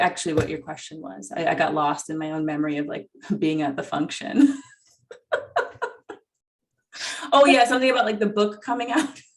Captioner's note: laughs